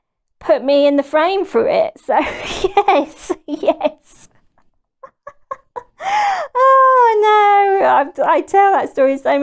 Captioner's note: laughs